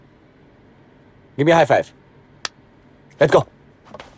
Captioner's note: Hands clapping